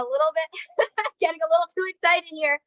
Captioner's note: laughing